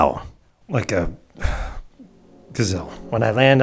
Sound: sigh

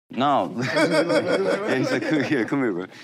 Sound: group laughs

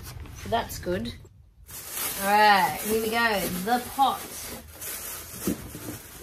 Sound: plastic rustles loudly

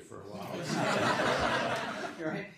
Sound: laughter

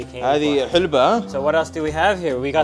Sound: speaks foreign language

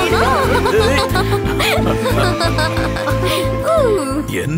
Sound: laughs

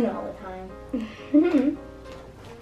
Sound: laughter

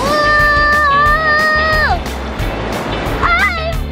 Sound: screams

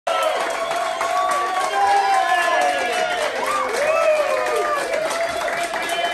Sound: crowd applauds; crowd cheers

